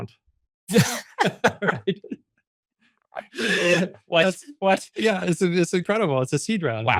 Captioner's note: laughs